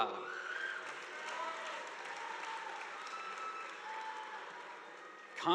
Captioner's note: audience applauding